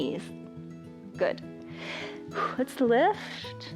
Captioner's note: exhales